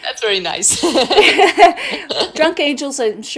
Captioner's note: both laugh